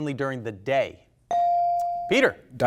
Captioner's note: buzzer chimes